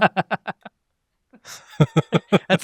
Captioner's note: laughs